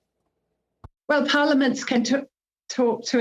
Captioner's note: speaking French